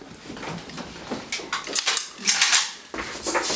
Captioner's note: guns getting loaded